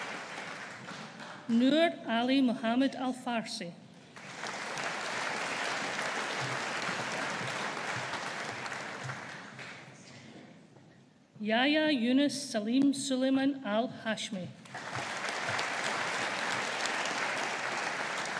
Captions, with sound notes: Noor Ali Mohammed Al-Farsi. (AUDIENCE APPLAUDING) Yahya Younis Salim Sulaiman Al Hashmi. (AUDIENCE APPLAUDING)